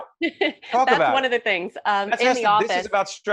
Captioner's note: laughing